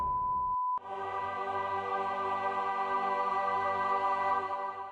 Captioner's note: angelic sound